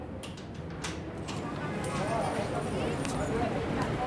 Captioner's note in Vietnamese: đường phố náo nhiệt